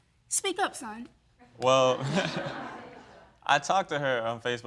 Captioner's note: chuckles